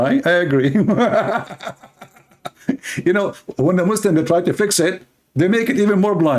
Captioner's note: Ketawa